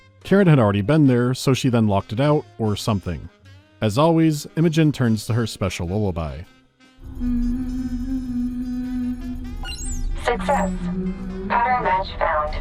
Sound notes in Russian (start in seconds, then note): 7.1 напевает мелодию